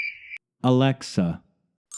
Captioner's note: american English Accent